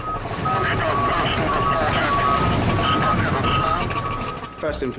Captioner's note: radio